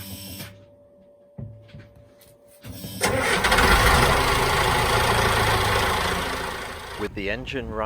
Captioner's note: engine starts